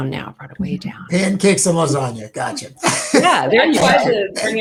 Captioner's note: laughs